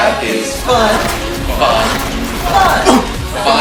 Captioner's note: Portal Sound Effect